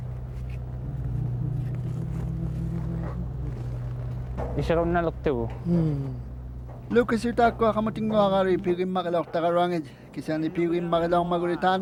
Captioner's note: speaking Indigenous language